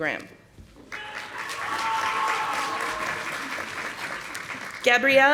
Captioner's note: audience applauding